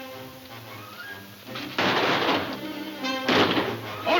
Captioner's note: guns firing